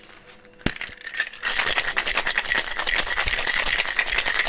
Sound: ice rattling

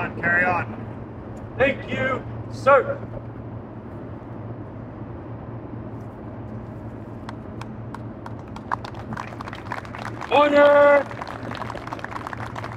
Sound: applause

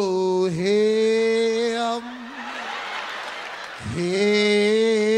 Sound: audience laughs

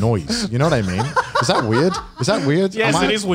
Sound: laughs

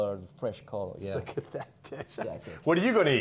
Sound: laughing

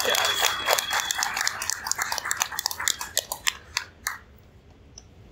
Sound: applause from crowd

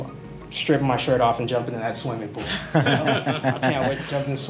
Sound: laughter

